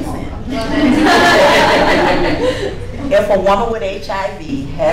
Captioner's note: laughing